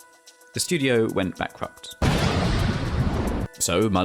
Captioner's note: explosion SFX